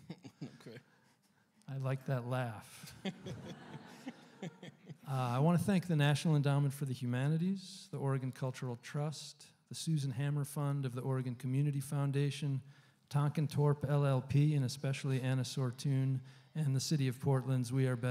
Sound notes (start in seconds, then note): 0.0 chuckling; 2.8 laughter